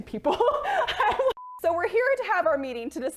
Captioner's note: laughter